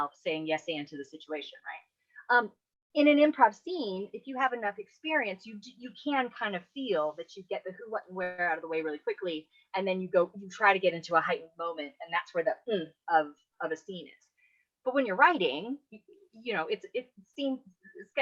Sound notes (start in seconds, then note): none